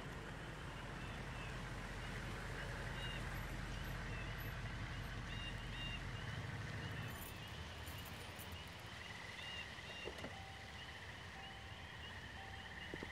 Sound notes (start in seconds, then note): 0.0 car engine rumbling; 10.0 car beeping